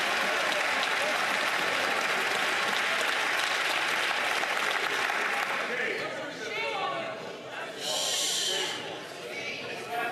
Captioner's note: some Applause